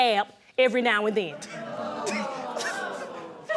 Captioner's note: audience exclaims